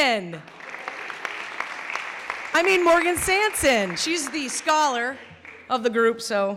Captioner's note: clapping